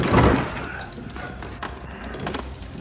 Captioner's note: Booth sighs